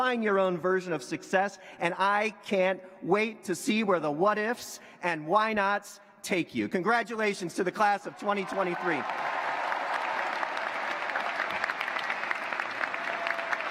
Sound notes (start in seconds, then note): 9.8 cheers, applause